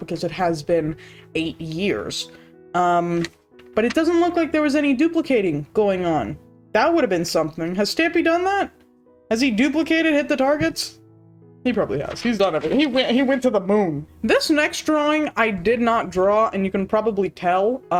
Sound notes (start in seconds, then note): none